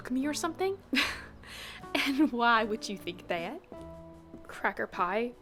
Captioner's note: laughs